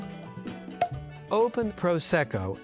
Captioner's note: popping sound